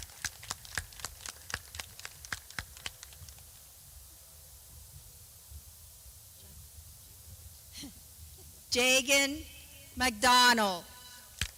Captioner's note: clapping